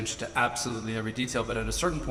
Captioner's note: none